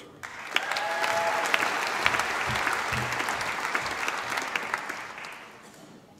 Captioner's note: applause